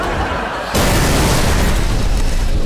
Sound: loud bang

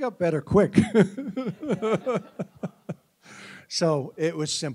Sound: chuckling

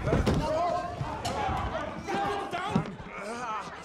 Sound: crowd shouting

